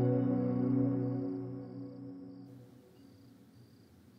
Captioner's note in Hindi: none